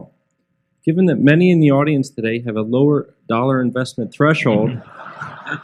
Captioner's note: laughter